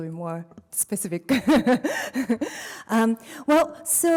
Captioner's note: laughs